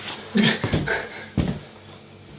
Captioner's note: grunts in pain